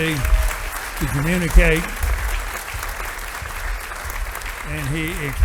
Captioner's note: audience applauding